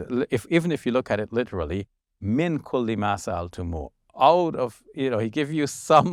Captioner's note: speaking foreign language